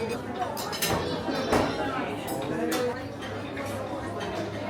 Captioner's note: cutlery and plates clanking; guests chattering